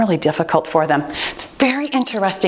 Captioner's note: timer beeps